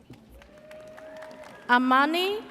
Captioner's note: audience cheers